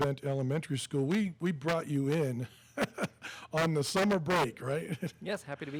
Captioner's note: laughs